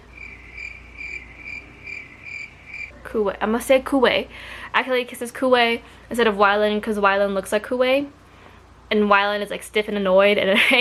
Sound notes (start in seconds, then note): 1.7 crickets chirping